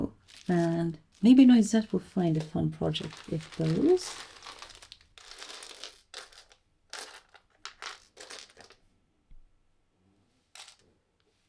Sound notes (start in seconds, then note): 5.1 rustling of buttons